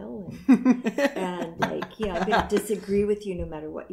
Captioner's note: laughter